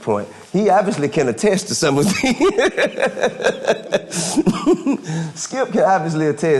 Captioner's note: laughing